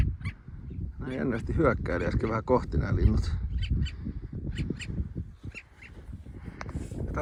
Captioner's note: sounds of long-tailed skuas